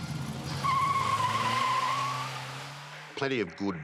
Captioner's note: tires squealing